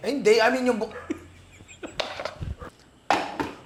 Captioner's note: laughs